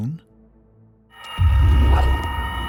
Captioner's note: eerie noises